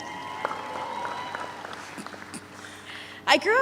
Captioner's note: audience cheers